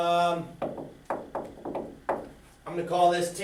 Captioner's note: knocks on table